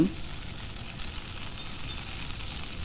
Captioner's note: sizzling